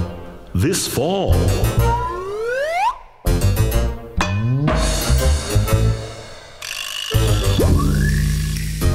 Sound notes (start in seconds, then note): 1.8 slide whistle whistling; 3.2 playful music